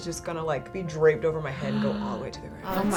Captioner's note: gasps